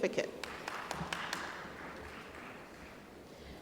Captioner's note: applause